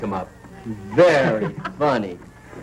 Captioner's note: laughing